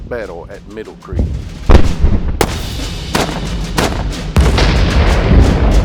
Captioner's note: cannons exploding and gunshots